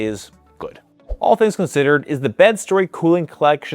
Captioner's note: screen whooshing